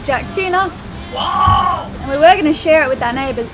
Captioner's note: squeals